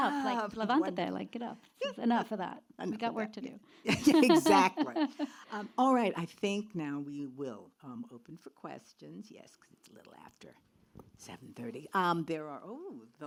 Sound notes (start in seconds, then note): 3.9 laughs